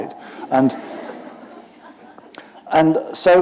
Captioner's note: laughter